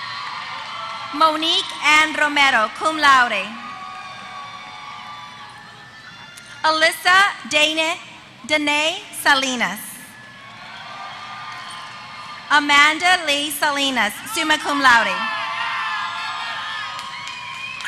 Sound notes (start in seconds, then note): 10.3 applause; 15.2 applause